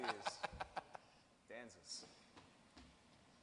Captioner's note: laughing